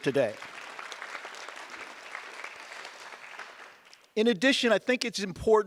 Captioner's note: audience applause